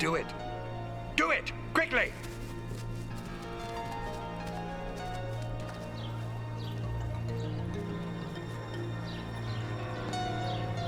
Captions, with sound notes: - Do it. Do it! Quickly! (footsteps) (birds chirping)